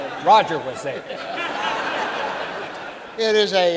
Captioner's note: audience laughing